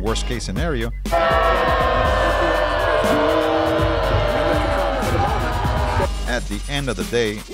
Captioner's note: horror scream